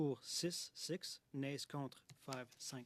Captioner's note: speaking French